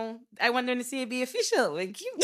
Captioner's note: laughing